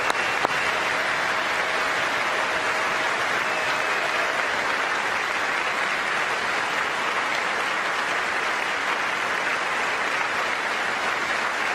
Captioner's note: applause